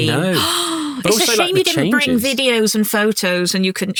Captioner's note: gasps